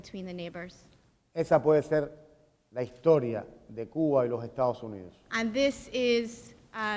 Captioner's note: speaking in Spanish